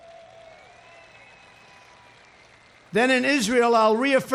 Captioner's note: applause